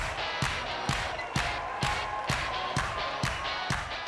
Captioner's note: cheering